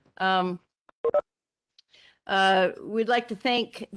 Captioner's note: tone beeping